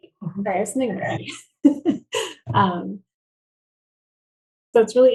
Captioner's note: laughing